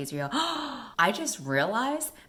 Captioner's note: gasp